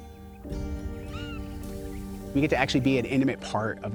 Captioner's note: hawk vocalizing